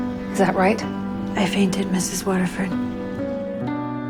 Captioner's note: voiceover